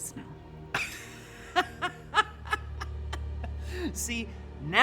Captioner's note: Michael laughs